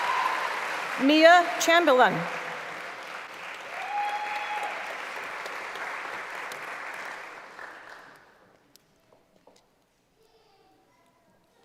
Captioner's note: applause; cheering